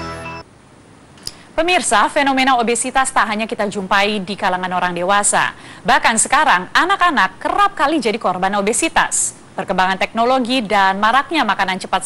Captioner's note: non-english speech